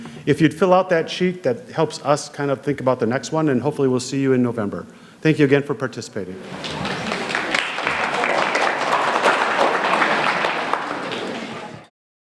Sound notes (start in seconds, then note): 6.4 audience applauding